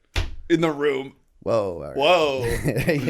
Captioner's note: chuckle